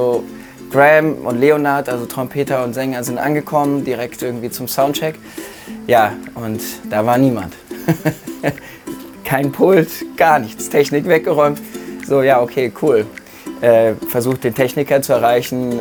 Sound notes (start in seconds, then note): 7.6 lacht